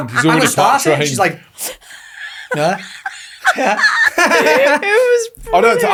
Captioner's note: all laughing